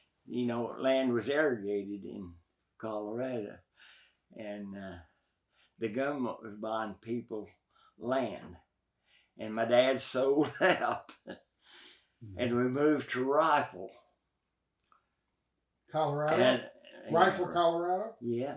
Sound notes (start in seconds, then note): 10.3 chuckles